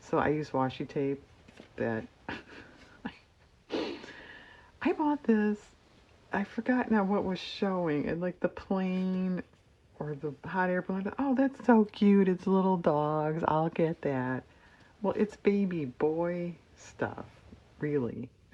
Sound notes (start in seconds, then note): 2.2 laughs